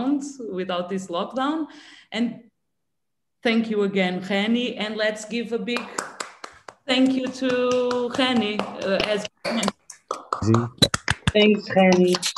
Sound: palmas

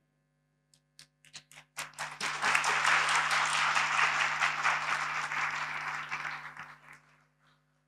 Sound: applause

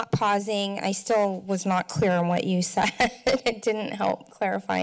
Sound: chuckles

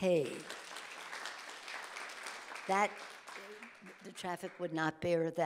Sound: audience applauding

